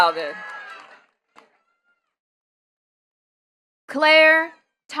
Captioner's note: attendees cheering and clapping